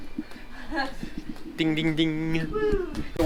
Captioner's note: laughs